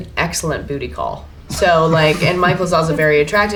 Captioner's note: laughter